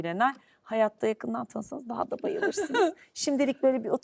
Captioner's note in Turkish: kahkaha